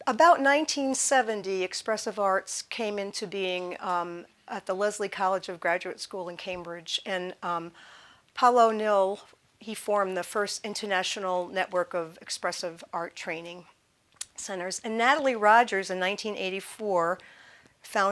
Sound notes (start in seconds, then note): none